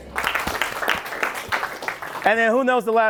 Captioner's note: applause